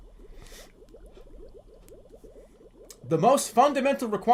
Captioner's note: breathes lightly